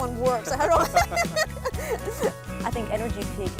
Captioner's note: laughs